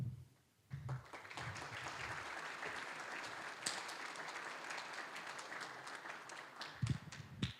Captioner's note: applause